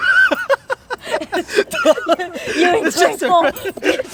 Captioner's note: laughing